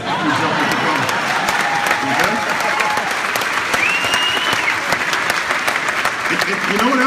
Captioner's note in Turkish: Alkışlar ve kahkahalar; Kahkahalar